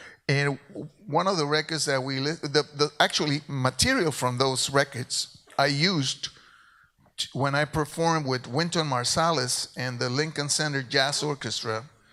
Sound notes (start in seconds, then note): none